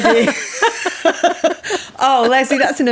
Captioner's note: laughing